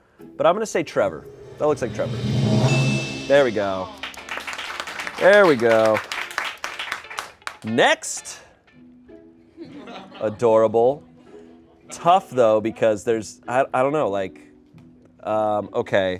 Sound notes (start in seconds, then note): 1.1 bell dings; 4.0 audience applauds